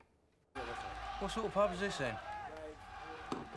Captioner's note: cheering on TV